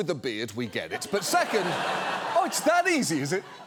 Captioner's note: studio audience laughs